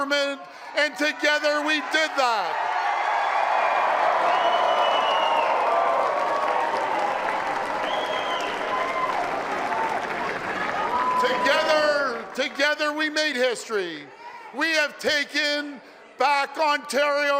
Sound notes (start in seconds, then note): 5.5 applause and cheering